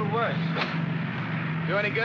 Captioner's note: switch pops